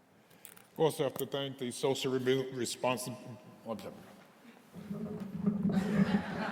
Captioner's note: mumbling; audience laughing